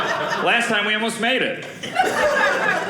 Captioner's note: audience laughing